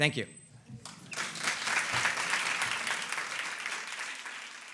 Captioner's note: audience applauds